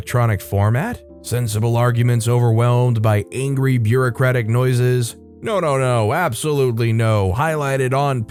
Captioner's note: sensible arguments overwhelmed by angry bureaucratic noises